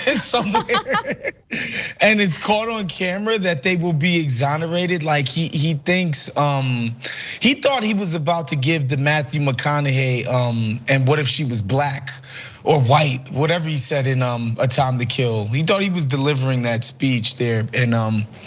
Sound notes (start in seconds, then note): 0.0 laugh